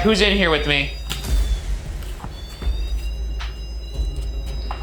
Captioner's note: REM pod blaring